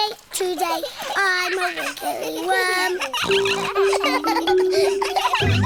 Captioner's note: snorts; all laughing